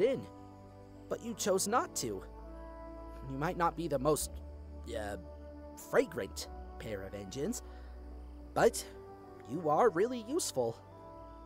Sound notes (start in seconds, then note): none